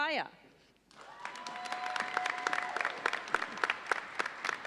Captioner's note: audience applauds